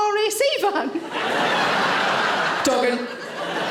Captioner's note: audience laughing